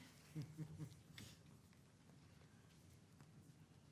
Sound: laughing

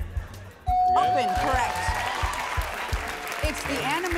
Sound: bell dings

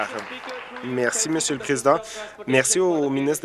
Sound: applause

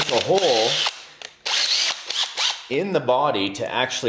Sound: drill whirring

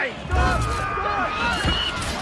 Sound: eagle screech

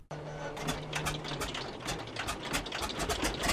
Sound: engine cranking

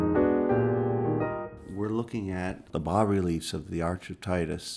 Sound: gentle piano music; voiceover

